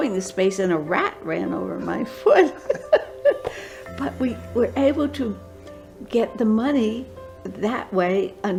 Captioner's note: laughter